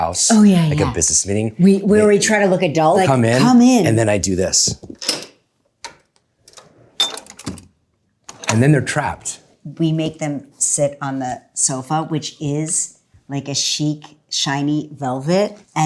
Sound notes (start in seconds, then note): 4.8 door latch clicking; 4.8 door whooshing